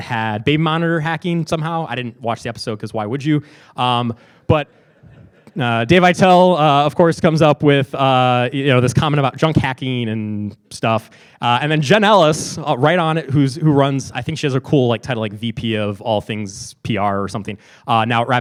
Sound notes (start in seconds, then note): 4.6 laughing